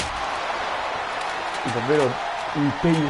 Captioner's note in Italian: Applauso